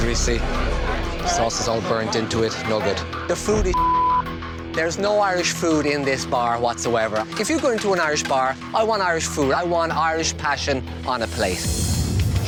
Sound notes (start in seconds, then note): 3.0 intense music; 3.7 beep